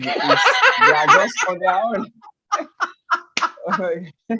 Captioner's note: laughs